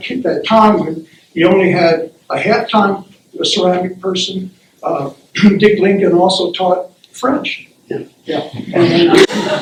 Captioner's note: laughter